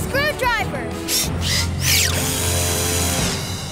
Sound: drill running

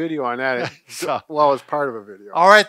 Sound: laughing

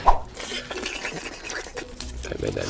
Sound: logo whooshing; slurping noises

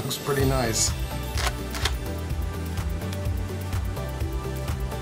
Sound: crackling

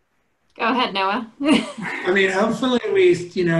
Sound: laughs

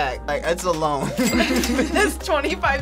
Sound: both laugh

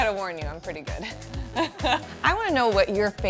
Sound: laughs

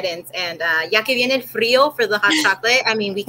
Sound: speaking foreign language

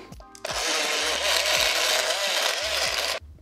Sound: mixer mixing

